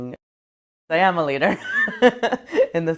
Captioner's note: laughs